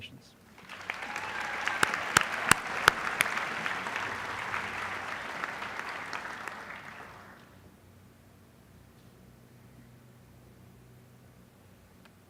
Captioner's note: applause